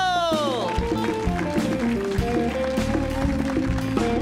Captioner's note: audience cheers